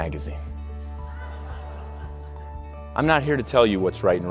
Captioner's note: audience laughs